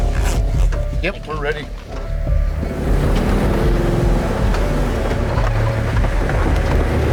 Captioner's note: engine revving